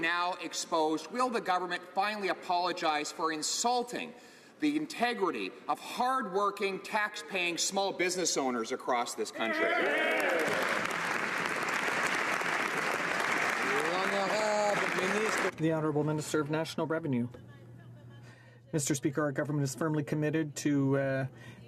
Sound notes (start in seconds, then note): 15.8 some Applause